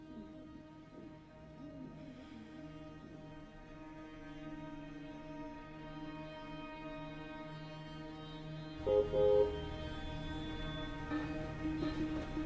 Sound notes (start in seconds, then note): 0.1 ominous music; 8.8 car honking